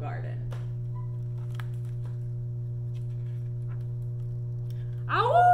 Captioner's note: howling noise